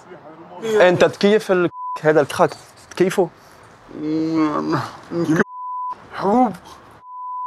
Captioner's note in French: Audio en arabe